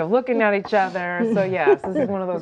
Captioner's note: laughing